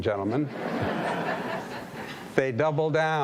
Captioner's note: audience laughing